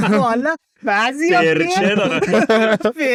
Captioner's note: laughs